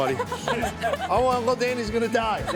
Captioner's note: laughs